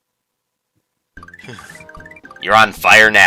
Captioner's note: breathing